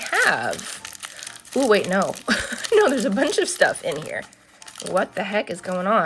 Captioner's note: laughs